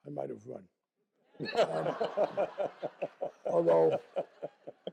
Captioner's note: laughter